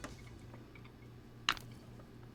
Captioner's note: none